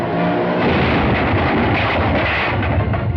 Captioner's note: truck crashes